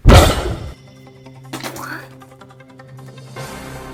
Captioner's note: spitting